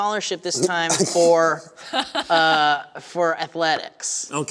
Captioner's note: laughter